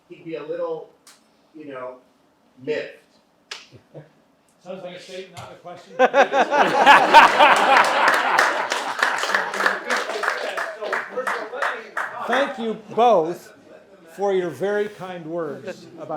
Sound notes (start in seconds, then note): 6.0 audience laughing; 6.4 audience applauds